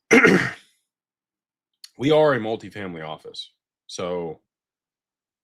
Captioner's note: clears throat